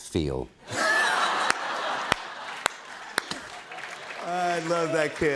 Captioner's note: laughter